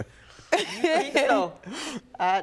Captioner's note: laughing